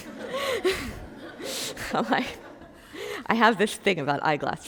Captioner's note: group laughing